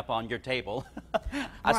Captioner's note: laughs